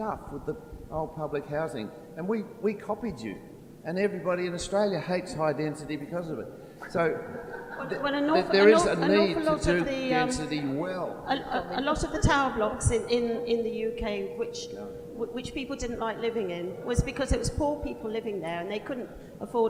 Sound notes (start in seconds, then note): 7.3 laughter